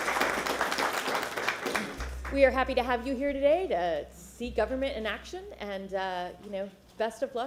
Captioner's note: applause